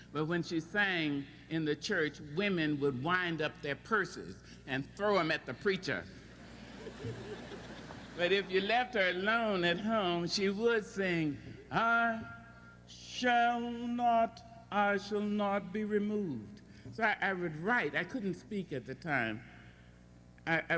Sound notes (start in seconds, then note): 6.2 laughter; 11.2 singing